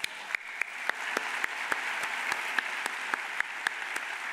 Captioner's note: all applaud